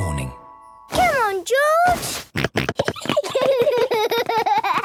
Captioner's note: George snorting; both giggling; George laughing